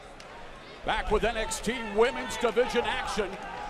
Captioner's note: crowd chatter